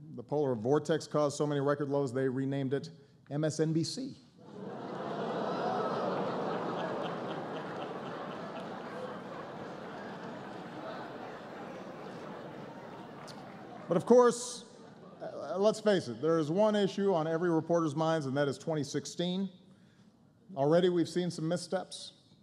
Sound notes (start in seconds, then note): 8.5 laughter